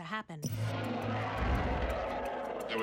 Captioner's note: monstrous growling